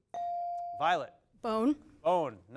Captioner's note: bell dings